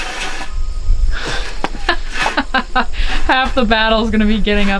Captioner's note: clanking; laughing